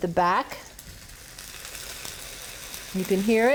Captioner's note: sizzling